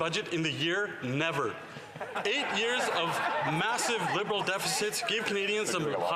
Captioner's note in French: voix de l'interprète